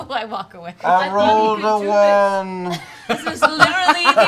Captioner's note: laughing; mournfully